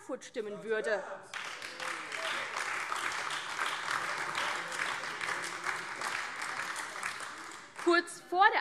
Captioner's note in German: Beifall AfD